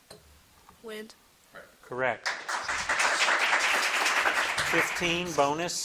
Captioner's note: audience clapping